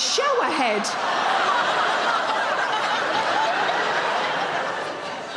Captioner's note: audience laughing